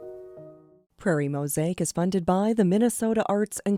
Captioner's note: voiceover